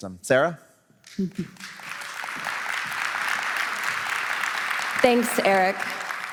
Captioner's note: applause